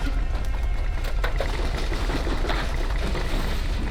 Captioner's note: rattling and clattering